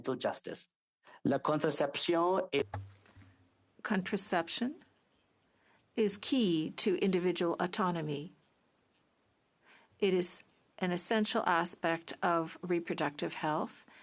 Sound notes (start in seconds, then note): 5.0 speaking French